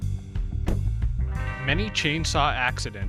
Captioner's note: door slamming